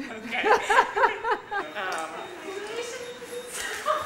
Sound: laughter

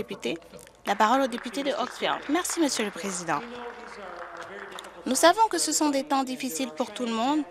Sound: some applause

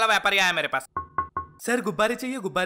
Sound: knocking

